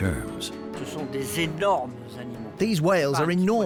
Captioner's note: speaking French